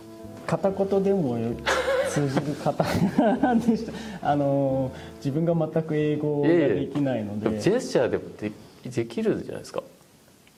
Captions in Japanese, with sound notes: [笑い] え、これジェスチャーでもできるじゃないですか、